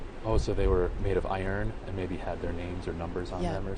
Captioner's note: voiceover